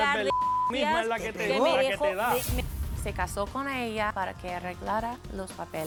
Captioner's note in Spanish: Bip